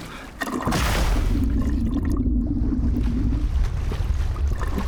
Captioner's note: water continues splashing; water splashing; bubbles gurgling; bubbles continue gurgling